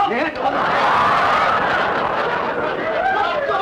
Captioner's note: audience laughter